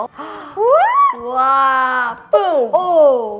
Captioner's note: happy noises